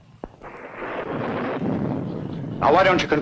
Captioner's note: thunder rumbling